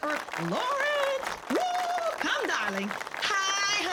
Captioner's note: audience applause